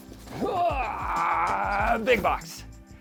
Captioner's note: groaning